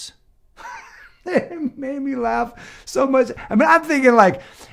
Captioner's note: laughs